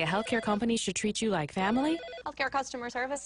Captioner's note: phone rings